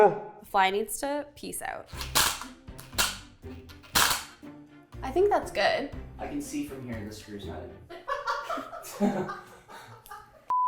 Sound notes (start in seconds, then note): 1.9 drill clicking; 8.1 laughing